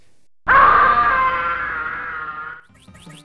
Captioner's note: screams